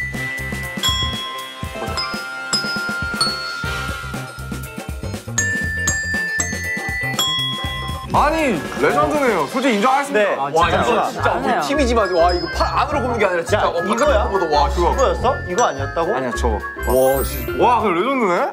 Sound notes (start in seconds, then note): 0.0 the bells from answer